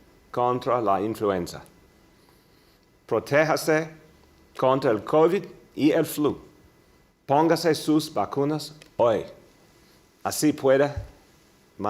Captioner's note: speaking in spanish